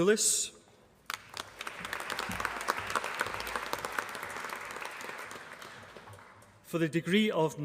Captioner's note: applause